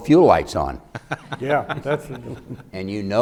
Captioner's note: laughing